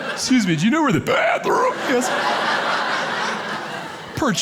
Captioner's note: audience laughing